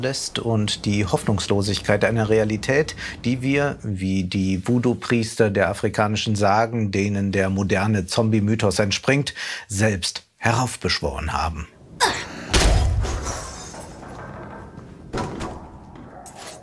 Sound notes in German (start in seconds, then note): 11.7 Krachen; 11.8 Ächzen